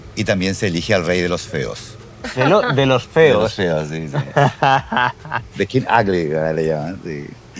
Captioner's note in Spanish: risas